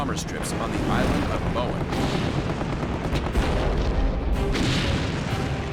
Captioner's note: explosions